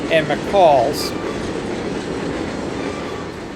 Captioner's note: train whistle